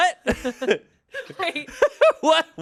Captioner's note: everyone laughs